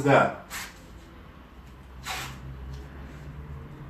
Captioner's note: tape tearing